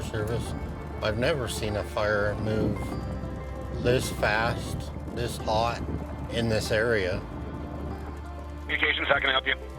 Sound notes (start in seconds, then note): 7.4 birds chirping